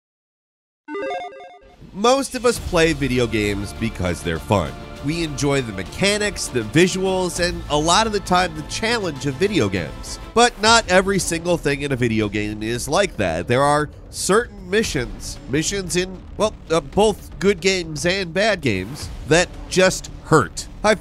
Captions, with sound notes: (beeps) - Most of us play video games because they're fun. We enjoy the mechanics, the visuals, and a lot of the time, the challenge of video games. But not every single thing in a video game is like that. There are certain missions, missions in, well, both good games and bad games that just hurt.